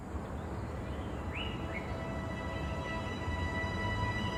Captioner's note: birds chirping